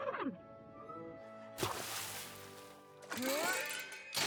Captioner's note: splash!; creak!